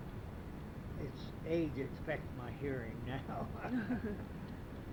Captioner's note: laughs